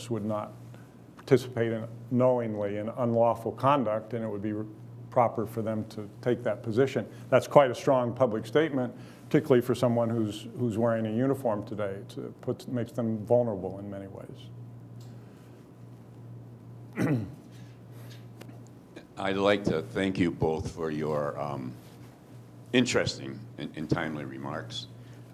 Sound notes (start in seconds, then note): 16.9 clears throat